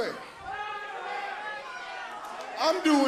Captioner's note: crowd chatter